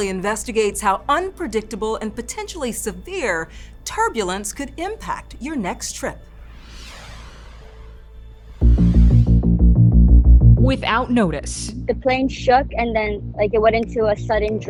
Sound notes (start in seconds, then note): 6.5 air whooshes; 8.1 tense music